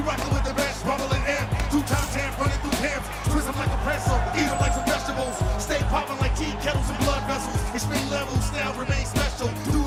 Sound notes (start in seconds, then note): 3.5 crowd cheering